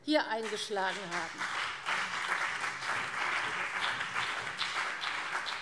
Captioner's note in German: Beifall CDU und BÜNDNIS 90/DIE GRÜNEN